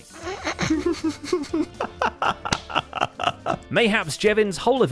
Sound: delighted laughter

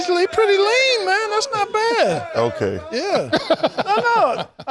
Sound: laughter

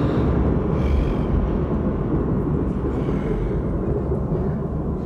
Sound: devil growling

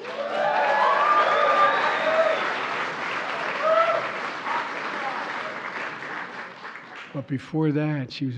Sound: applause

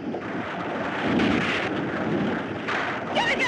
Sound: thunder Rumbling

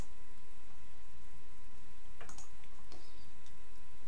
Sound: mouse clicking

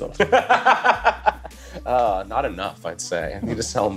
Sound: laughs

